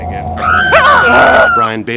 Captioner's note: screaming